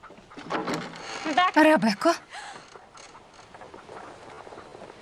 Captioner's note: Rebecca gasping